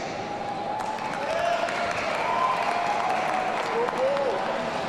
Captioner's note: audience cheering